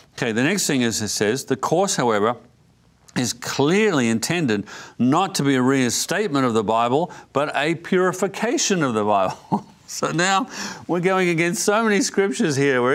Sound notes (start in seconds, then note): 9.2 laughs